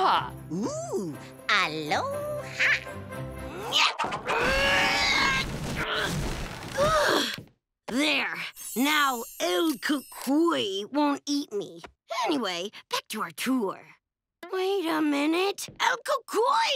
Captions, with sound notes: Ooh, aloha. [grunting] [sighs] There. Now "El Cucuy" won't eat me. Anyway, back to our tour. Wait a minute. El Cucuy!